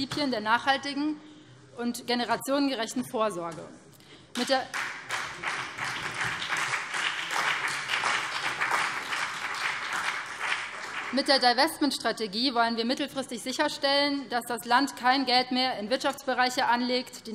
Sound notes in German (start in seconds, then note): 4.3 Beifall BÜNDNIS 90/DIE GRÜNEN und vereinzelt CDU